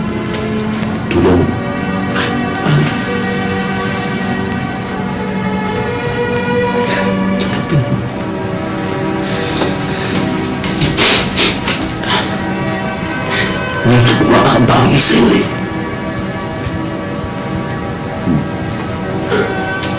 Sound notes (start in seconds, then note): 10.9 Ben sniffles